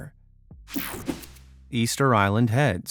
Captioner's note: image whipping effect